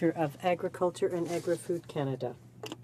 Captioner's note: speaking French